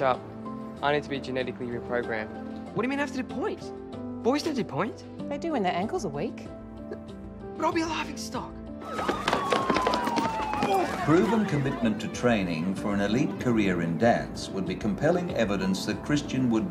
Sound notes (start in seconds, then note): 9.0 sirens wailing